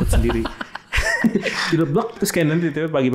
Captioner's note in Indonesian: tertawa